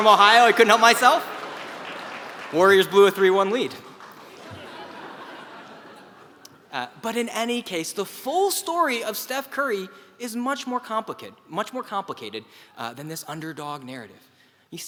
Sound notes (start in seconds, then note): 0.0 applause; 4.1 laugh